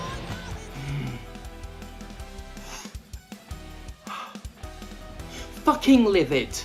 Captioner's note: breathes deeply